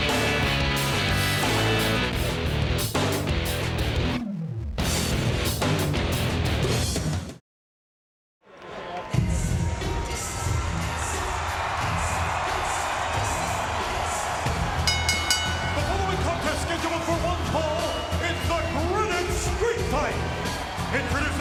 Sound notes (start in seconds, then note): 14.8 bell ringing